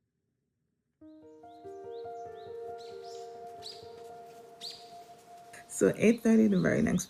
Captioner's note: soft piano music; birds chirping